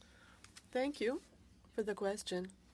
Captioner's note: speaking French